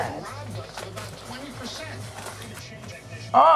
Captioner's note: television chatter